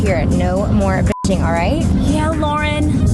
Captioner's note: beep